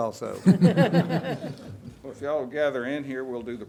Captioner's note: audience laughing